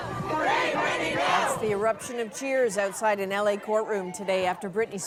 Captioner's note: chanting